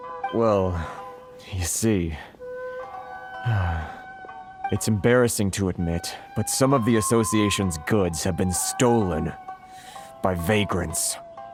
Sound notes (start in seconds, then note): 3.4 sigh